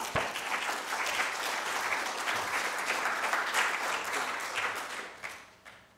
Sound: applause

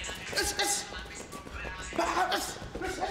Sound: grunting

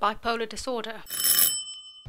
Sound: bell ring

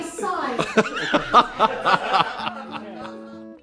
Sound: laughing

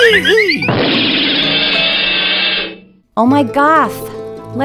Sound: crashing noises

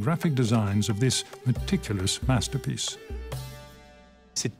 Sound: speaks French

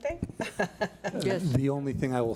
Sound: laughs

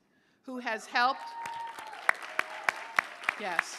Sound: cheers, applause

